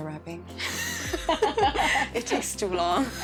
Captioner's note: both laugh